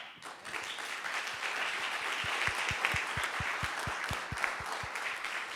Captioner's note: audience applauding